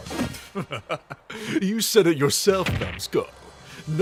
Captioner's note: laughs